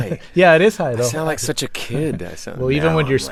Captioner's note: impersonating deep voice